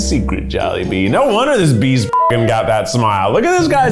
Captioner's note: beep